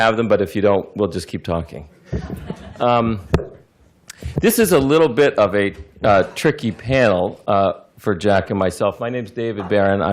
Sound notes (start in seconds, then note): 2.0 laughter